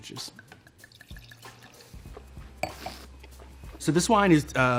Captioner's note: wine pours; slurps and swishes wine